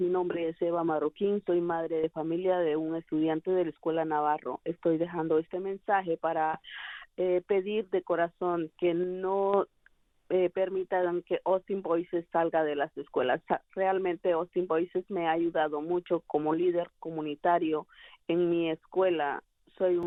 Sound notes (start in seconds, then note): 4.1 speaking spanish